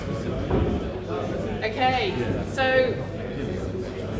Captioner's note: crowd chatter